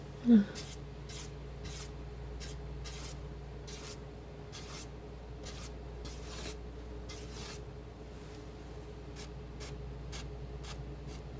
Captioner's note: scratching